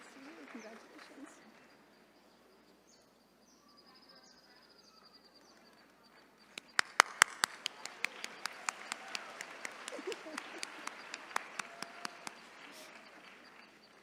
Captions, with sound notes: Good to see you. Congratulations. (attendees cheering)